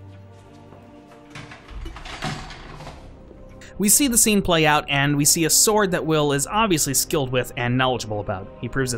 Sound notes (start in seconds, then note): 1.3 kla-kling noise